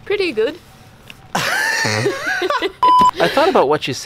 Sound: laugh

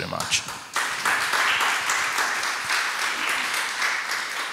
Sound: audience applauds

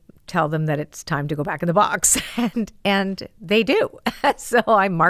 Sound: laughs

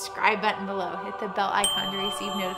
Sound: bell dings

